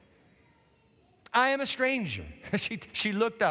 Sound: chuckles

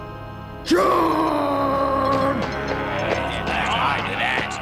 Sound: both chattering

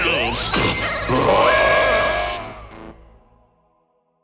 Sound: Sl4sh and Fatal Error yell

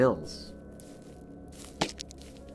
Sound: kicks stone

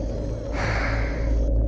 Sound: Harry exhales deeply

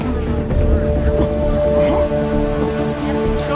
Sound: grunting

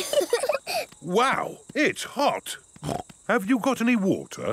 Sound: laughing; snorts

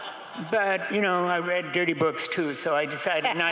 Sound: crowd cheering

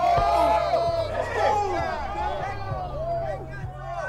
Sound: yelling, whooping

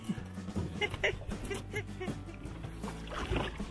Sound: laughing

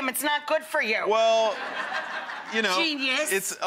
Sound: audience laughing

